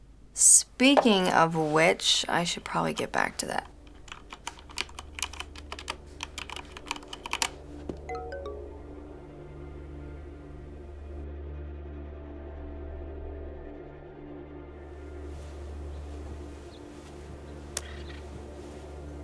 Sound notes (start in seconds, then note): 7.7 phone chimes; 9.0 quiet suspenseful music plays